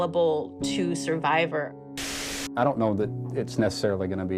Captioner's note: soundbite of archived recording